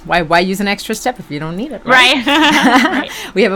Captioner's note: laughs